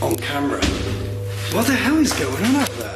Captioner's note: loud thumping